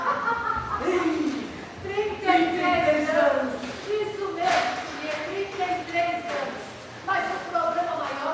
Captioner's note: laughter